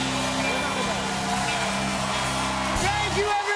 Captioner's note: cheers and applause